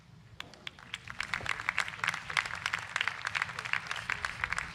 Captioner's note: crowd applauds